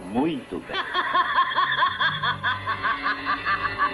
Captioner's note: laughing